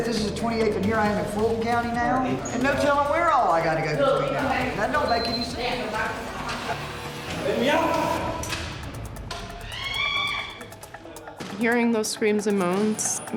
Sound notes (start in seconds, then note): 9.6 screams